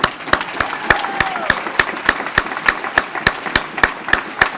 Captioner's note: applause